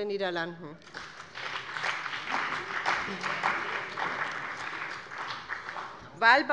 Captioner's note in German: Beifall bei dem BÜNDNIS 90/DIE GRÜNEN und der CDU